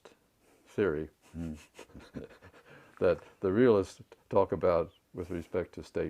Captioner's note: laugh